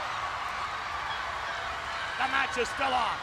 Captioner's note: audience cheering